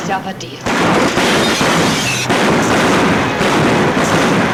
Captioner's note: guns bang